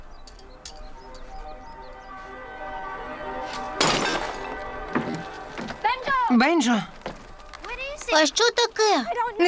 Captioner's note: birds chirping; shattering